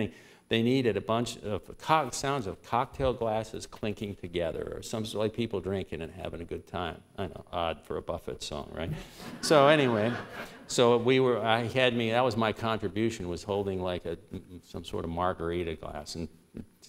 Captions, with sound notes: But at the beginning they needed a bunch sounds of cocktail glasses clinking together, or some sort of, like people drinking and having a good time. I know, odd for a Buffett song, right? [laughter] So, anyway, so that was my contribution -- was holding like some sort of margarita glass